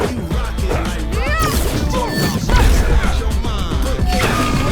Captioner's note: Eve grunts; fists whooshing